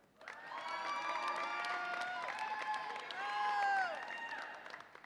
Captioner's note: audience applauds and cheers